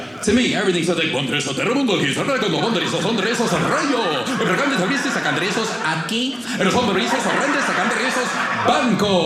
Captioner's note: speaking Spanish